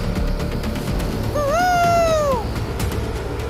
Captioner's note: Signalling